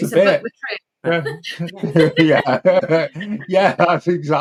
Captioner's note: laughter